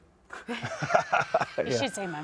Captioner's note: all laughing